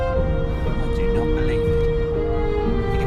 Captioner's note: quietly